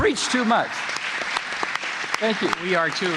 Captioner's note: applause